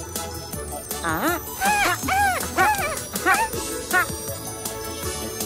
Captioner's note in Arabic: موسيقى سحرية; صوت مرح; موسيقى مرحة